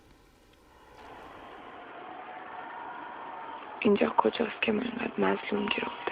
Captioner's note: distant voices clamoring